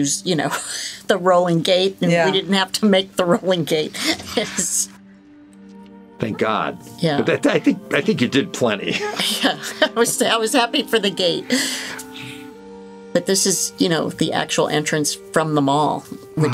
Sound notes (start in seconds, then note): 3.8 laughing; 8.8 chuckling